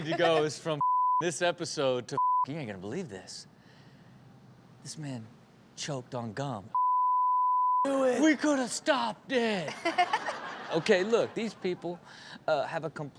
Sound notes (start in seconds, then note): 0.8 beep; 6.7 beep; 9.7 all laugh